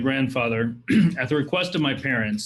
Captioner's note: clears throat